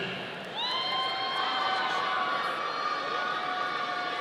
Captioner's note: audience cheering